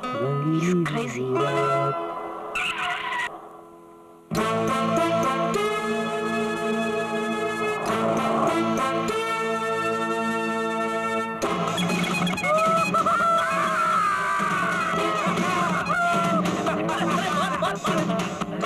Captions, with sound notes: "The night will be colourful." - He's crazy. (Tires squealing) (Horn blares) Boss, look.